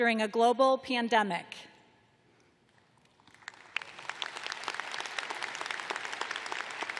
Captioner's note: applause